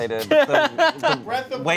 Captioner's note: laughs